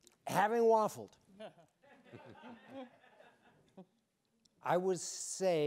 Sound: audience laughing

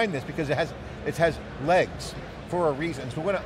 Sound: none

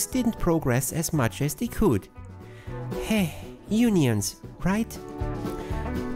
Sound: sigh

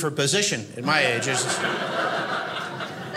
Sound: audience laughing

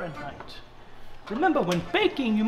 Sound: oven door clicks

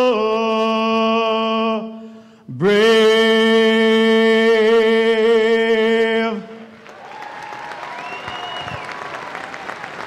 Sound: cheers and Applause

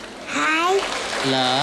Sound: applause

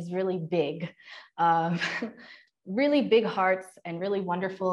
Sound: laughter

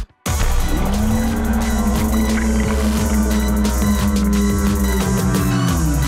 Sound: screaming and cheering; slowed screaming and cheering

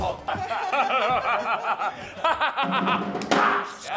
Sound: laughter

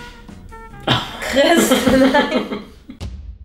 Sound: laughter

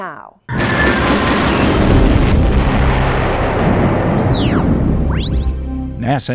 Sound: sound Effects

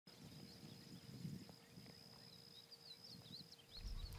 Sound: birds chirping

